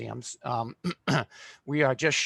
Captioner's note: throat clearing